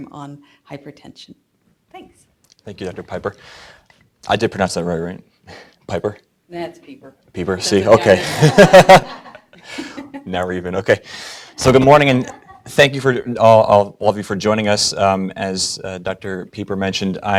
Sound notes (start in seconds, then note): 7.6 laughs